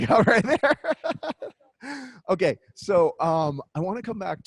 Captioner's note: laughs